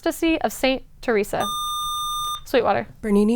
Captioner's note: buzzer